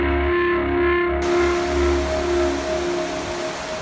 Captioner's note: water rushing